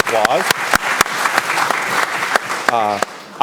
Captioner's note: applause